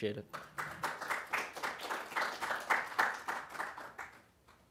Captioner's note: applause